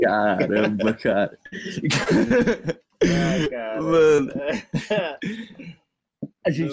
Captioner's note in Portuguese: risadas